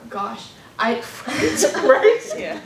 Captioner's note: laughter